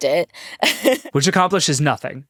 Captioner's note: laughing